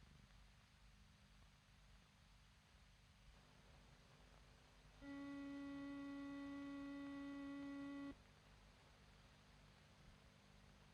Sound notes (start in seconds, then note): 5.0 horn honks